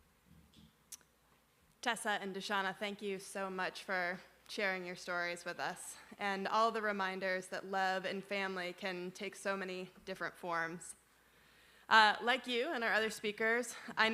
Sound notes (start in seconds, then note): none